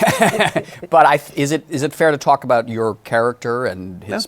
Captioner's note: laughs